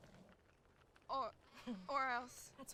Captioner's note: Cathryn chuckles